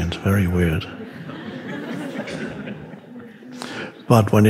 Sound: audience laughing

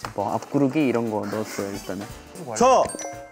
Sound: hahahaha

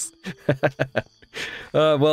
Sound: nervously laughs

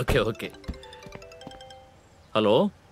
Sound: cell phone rings

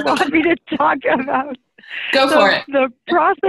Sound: laughs

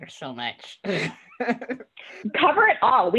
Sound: laughs

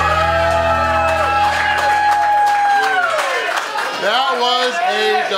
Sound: crowd cheers and claps

